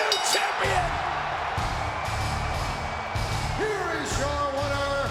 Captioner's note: audience cheering and clapping